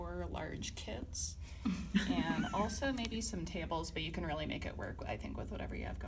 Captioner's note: snickering